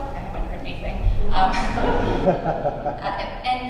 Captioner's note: laughter